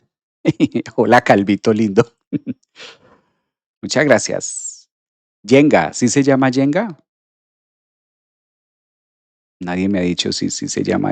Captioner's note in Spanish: resoplido